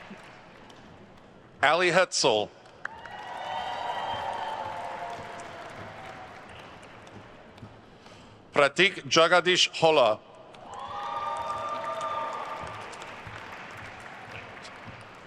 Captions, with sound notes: Allie Hoeltzel. (attendees cheering and applauding) Pratik Jagadish Holla. (attendees cheering and applauding)